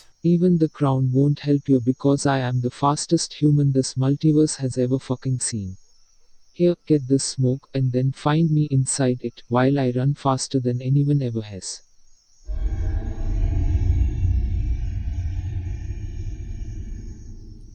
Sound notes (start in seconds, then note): 12.5 Iki exhaling smoke